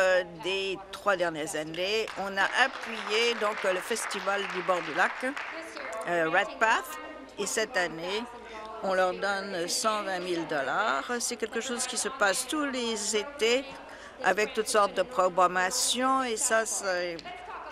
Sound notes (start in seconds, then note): 5.4 applause